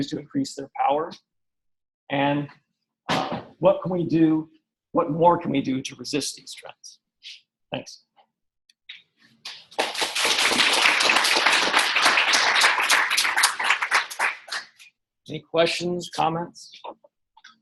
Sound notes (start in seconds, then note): 9.7 audience applauding